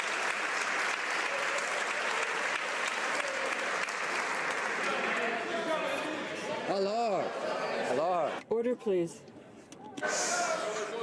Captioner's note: some Applause